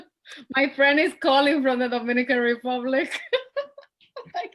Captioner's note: laughs